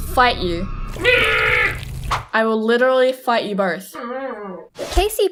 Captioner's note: Gooby noises